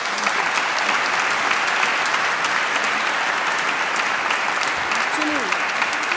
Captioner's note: applause